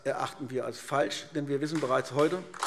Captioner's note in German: Beifall AfD